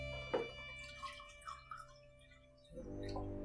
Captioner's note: pouring water